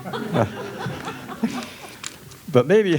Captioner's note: guests laughing